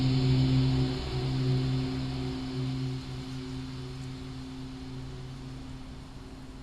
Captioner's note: rain pattering; soft tense music